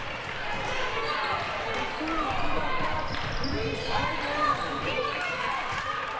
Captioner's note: audience chattering and yelling